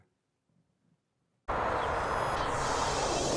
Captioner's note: whooshing